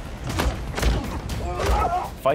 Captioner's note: grunts